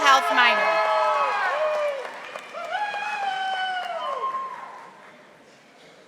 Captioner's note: audience applauding